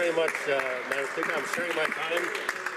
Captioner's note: speaking French